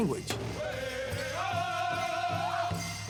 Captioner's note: chanting